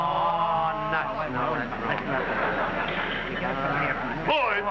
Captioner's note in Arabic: همهمات سخيفة